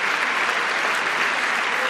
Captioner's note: applause